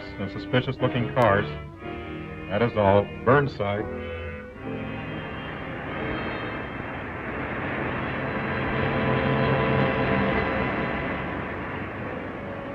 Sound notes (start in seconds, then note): 4.8 engine rumbling